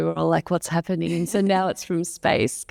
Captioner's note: laughs